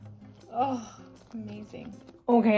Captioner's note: sighs